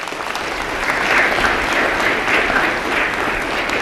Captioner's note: applause